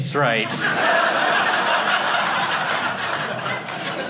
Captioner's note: audience laughing